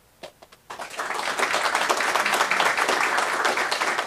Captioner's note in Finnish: Aplodeja